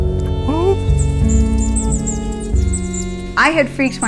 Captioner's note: bat squeaks